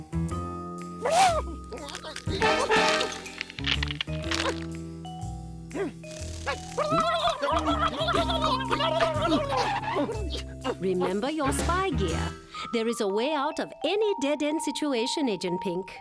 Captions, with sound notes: (exclaims) (gobbles angrily) REMEMBER YOUR SPY GEAR. THERE IS A WAY OUT OF ANY DEAD-END SITUATION, AGENT PINK.